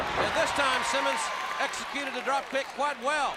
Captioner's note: crowd cheering